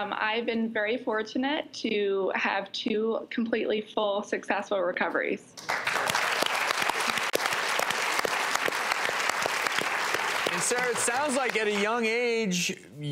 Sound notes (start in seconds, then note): 5.6 audience applauds